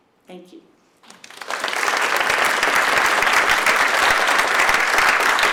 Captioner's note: audience applauds